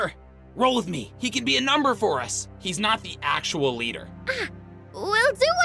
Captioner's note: hushed